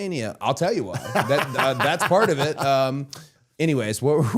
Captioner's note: Matt laughing